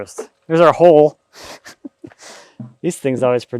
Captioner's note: laughing